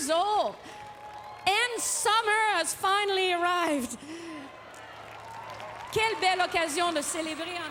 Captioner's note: applause